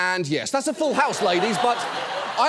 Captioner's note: audience laughs